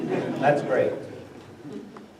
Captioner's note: laughter